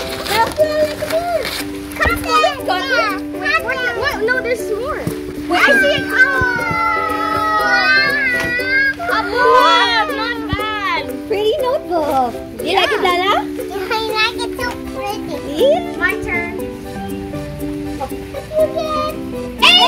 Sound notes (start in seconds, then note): 5.4 cheerful yelling